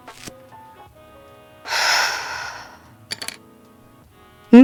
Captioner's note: writing sounds, more sticky note peels; writing stops, sighs and puts down the pen